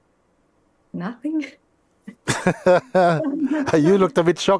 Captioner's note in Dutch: Mooji lacht